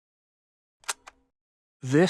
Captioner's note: camera shutter clicks